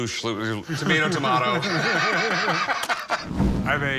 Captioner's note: laughter